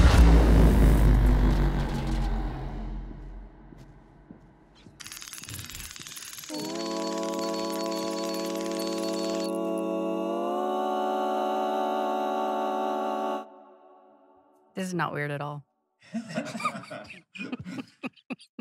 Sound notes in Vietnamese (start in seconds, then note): 4.2 tiếng bước chân lách cách; 13.7 im lặng; 16.1 Đạo diễn cười